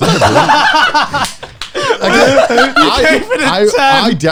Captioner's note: laughs